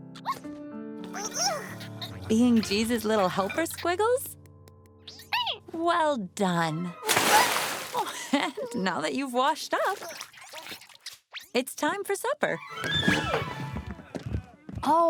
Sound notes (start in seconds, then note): 0.2 caterpillar noises; 7.0 splash